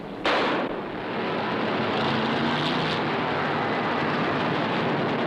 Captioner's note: engines rumbling; gun firing